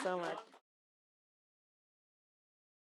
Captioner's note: applause